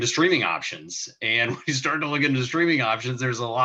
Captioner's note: chuckling